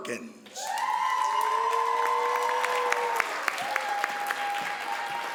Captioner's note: crowd cheers and applauds